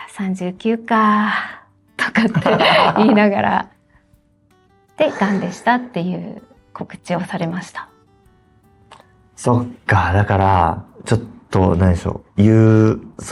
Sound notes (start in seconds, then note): 8.6 laughs